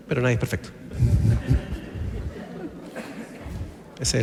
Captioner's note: laughs